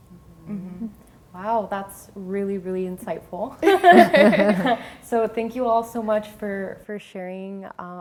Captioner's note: all laugh